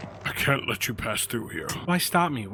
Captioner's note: none